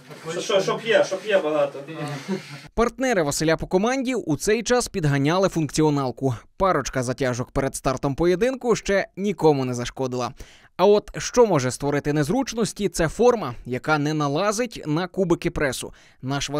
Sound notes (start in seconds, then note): 2.7 voiceover